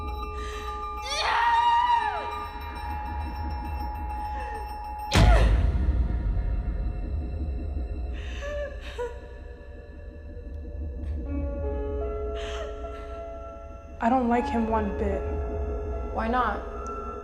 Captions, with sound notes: (Belle screams) I don’t like him one bit. Why not?